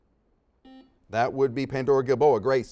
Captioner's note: beeps